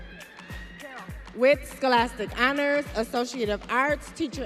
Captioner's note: audience chattering